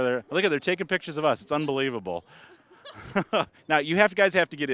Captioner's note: laughing